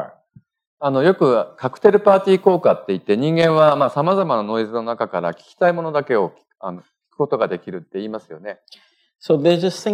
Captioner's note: speaking japanese